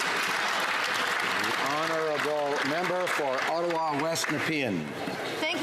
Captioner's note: some Applause